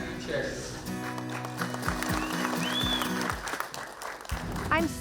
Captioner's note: everyone applauds